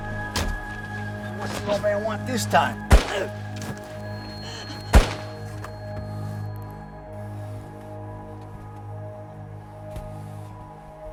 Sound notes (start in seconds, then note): 3.3 gun firing